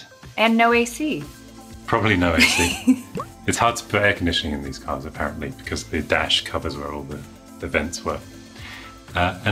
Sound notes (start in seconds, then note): 2.4 laughs